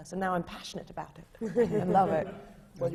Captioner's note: laughter from the panel